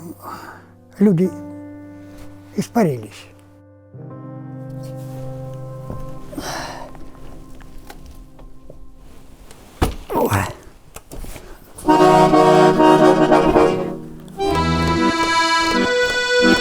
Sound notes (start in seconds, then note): 10.1 grunting; 11.8 playing the accordion